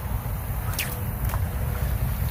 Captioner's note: splash; sling whips; splash